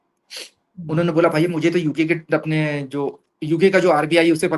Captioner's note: nasal voice